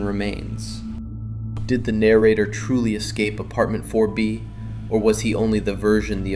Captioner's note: thoughtful